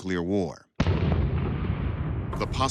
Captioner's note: explosion rumbling